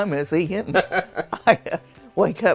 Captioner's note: chuckles